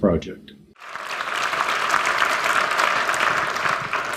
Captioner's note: applause